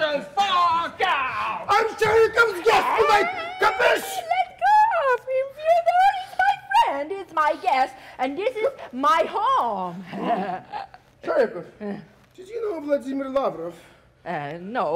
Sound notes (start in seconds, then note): 10.1 Sharik softly chuckles